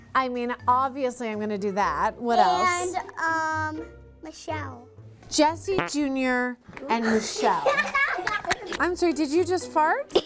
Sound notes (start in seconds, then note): 5.8 fart sound; 7.1 laughing